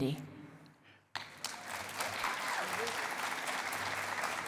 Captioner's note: cheering and applause